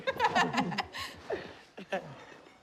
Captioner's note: laughs